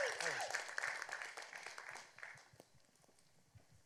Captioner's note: applause